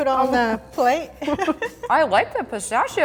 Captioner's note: laughs